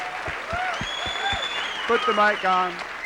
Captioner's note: cheers,applause